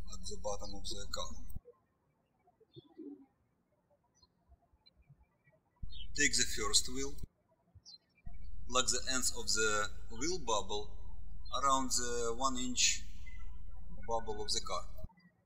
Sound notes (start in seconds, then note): 2.5 birds chirping